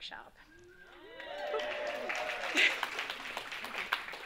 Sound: audience claps

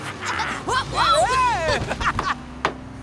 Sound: laughing

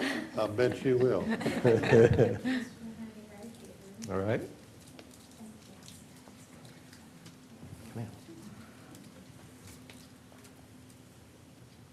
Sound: laughter

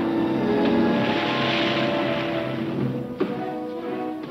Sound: splashing

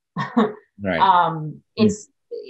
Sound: laughs

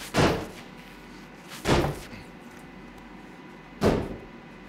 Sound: banging

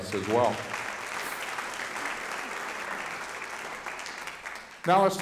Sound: audience applauding

